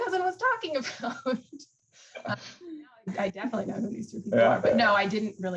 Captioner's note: laughs